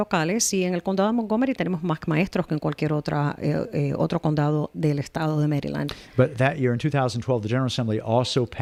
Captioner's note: Hablando ingl\s